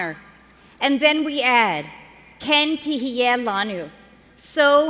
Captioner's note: speaking hebrew